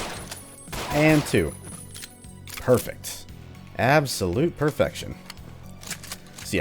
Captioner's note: pew pew pew